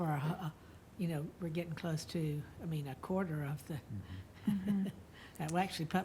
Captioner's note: laughs